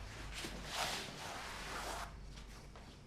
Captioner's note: none